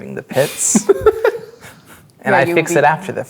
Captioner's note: laughing